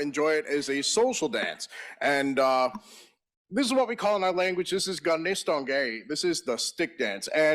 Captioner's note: in Native Language